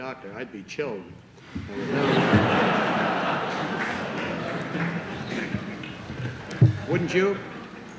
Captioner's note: laughter